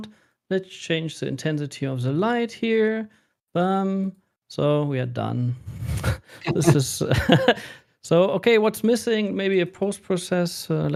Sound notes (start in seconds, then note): 6.4 laughter